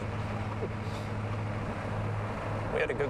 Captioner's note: laughs